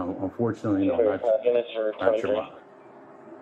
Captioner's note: radio chatter